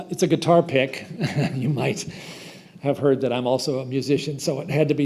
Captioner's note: chuckles